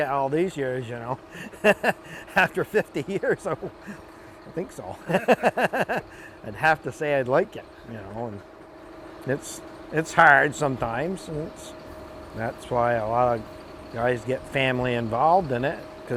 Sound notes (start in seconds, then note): 1.2 laughs